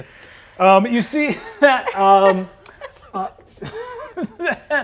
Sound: laughs

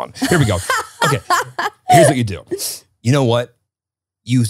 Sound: laughing

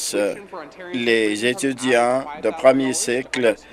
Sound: none

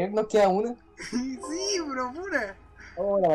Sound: windows noise

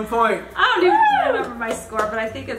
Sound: clapping

